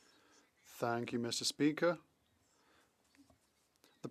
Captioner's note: speaking French